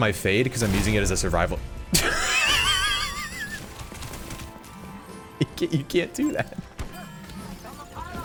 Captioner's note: laughter